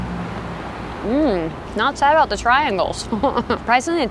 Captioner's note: laughs